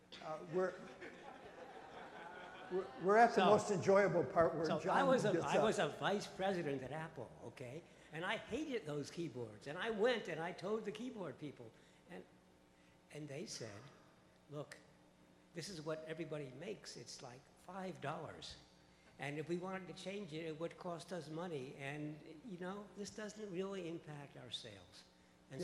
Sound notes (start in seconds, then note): 0.4 audience laughs; 5.8 voiceover